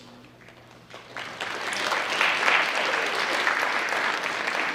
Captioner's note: audience applauds